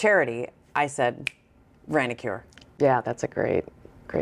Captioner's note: finger snapping